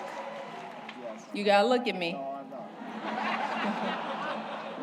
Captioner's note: applause